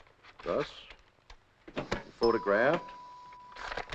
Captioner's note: dinging